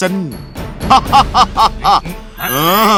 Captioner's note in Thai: หัวเราะ